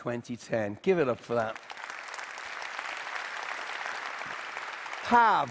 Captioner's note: Applause